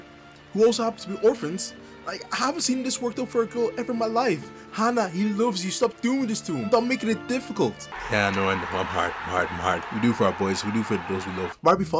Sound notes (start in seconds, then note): 7.9 applause